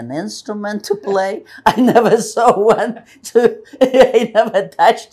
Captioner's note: laughing